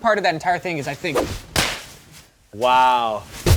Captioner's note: swish, crack